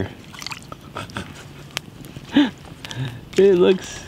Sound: laughing

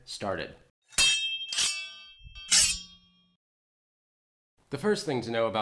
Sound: sword screeching

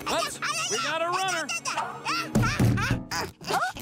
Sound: grunting

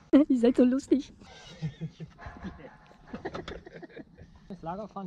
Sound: giggling

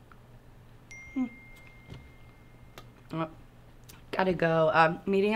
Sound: phone pinging

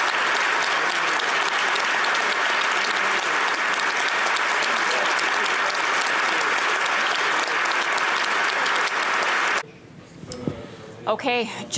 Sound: applause

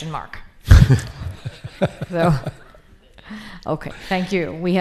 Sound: laughs

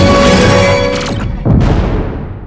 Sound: ground collapse

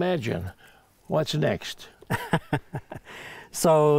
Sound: laughs

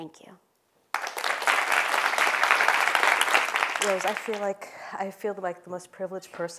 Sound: applause

